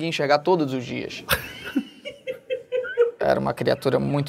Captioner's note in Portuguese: risadas